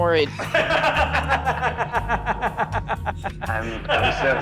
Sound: laughing

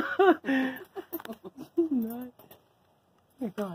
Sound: laughter

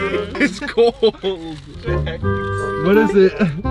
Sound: laughing

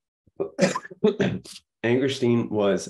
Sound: coughing

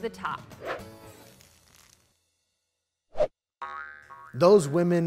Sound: whooshing graphic

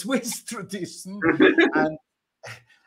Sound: laughter

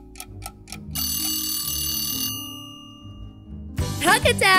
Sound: timer

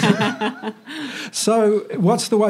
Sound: all laugh

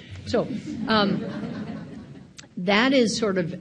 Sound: audience laughing

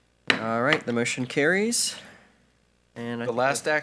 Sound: gavel bangs

